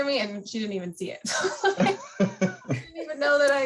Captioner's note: laughter